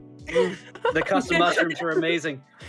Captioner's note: girls laughing